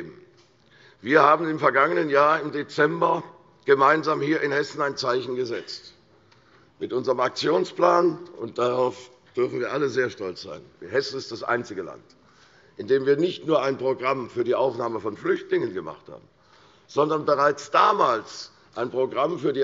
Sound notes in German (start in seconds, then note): none